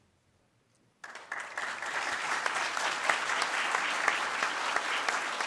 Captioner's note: audience claps